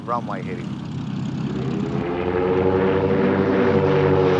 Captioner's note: engine roaring